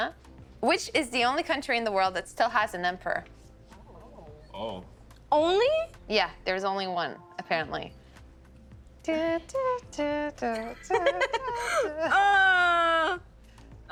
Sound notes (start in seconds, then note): 7.4 Humming Jeopardy theme song; 10.5 laughing, groaning